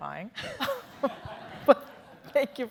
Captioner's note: laughing